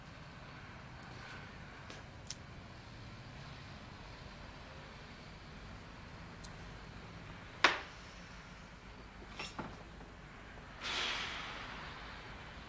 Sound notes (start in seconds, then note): 10.7 they sigh